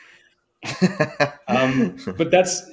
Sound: host laughs

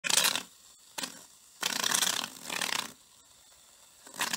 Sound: aerosol can sputtering

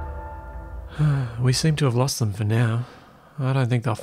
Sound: sigh

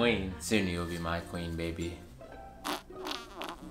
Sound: farting

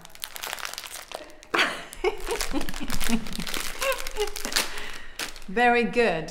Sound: packet rustling; Claudia laughing

